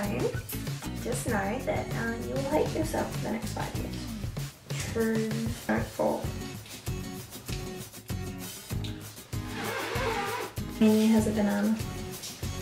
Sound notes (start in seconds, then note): 9.4 blowing air noises